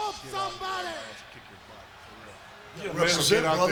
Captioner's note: group whispering